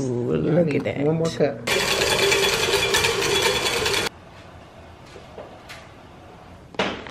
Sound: mixer mixing

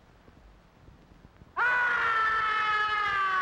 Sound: shout

